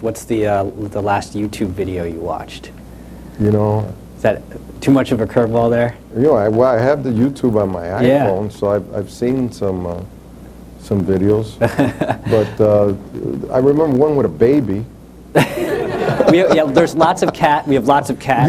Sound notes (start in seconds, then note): 11.6 laughs; 15.3 laughter